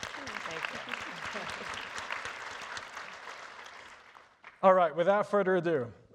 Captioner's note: audience applauding